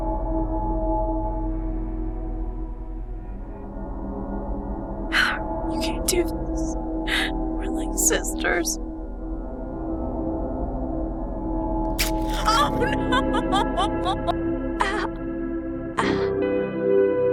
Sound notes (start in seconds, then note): 7.1 sobbing; 11.9 cutting sound; 14.8 pained noises